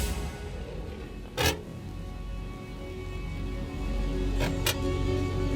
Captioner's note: camera shutter